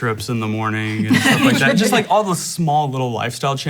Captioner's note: laughing